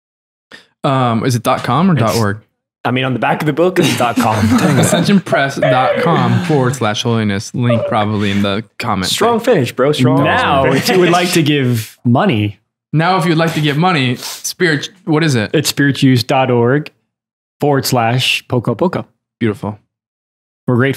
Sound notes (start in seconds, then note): 3.7 laughter